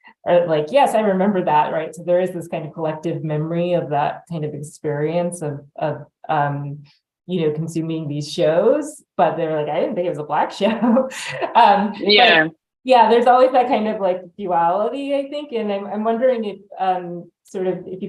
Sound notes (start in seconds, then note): 12.0 chuckles